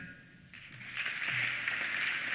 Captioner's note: applause